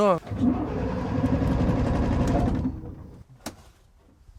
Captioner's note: engine failing to start